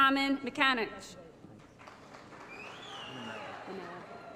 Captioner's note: applause